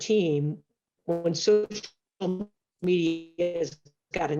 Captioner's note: mic cracking